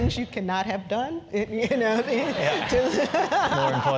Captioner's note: laugh